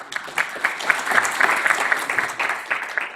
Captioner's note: applause